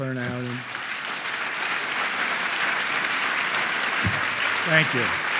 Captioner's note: audience applauding